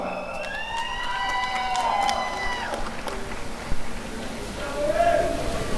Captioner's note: applause and cheering